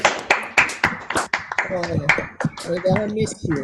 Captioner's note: people clapping